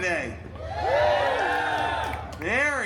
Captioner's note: guests cheering